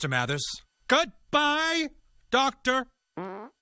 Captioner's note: farting noise